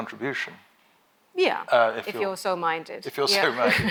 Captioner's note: laughs